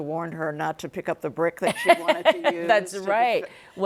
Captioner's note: laughs